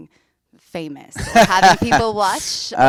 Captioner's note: laughs